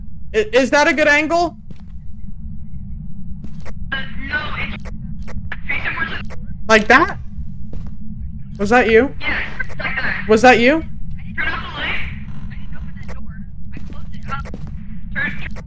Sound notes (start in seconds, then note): 4.0 over Radio; 6.5 door closes; 8.9 over Radio; 11.5 over Radio; 14.7 over Radio